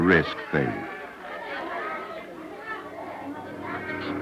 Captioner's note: children and adults, indiscriminate chatter